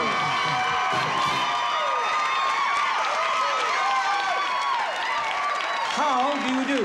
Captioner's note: screaming